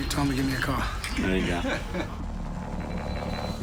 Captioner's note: laughter